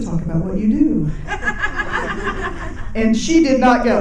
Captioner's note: people laughing